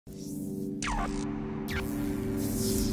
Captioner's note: electronic tone